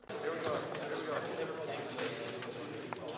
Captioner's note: speaking FRENCH